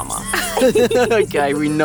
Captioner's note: laughing